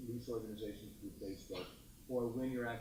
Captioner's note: speaks faintly